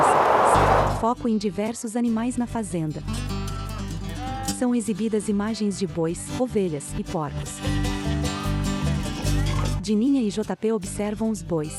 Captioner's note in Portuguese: Ruídos da natureza